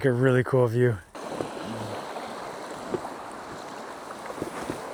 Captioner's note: water splashing